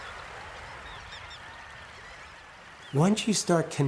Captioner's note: bird sounds